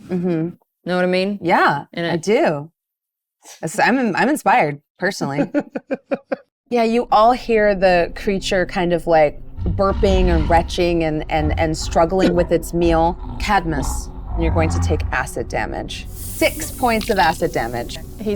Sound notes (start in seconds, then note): 5.3 laughs